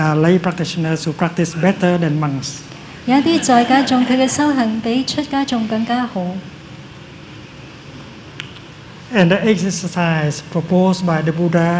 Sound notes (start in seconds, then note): 3.1 laughter